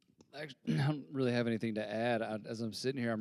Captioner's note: clears throat